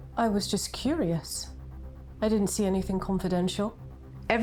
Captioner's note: none